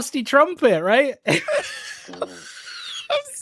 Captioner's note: laughter